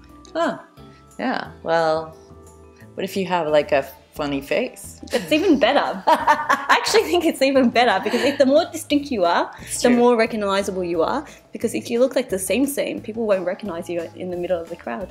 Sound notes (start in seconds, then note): 7.9 laughing